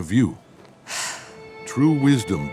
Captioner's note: sighing